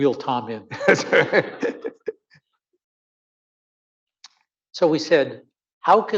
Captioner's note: audience laughing